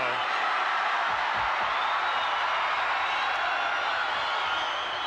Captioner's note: crowd cheers